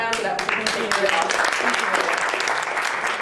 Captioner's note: clapping